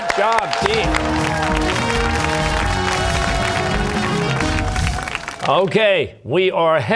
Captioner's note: cheers and applause